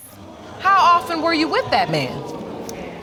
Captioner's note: audience gasping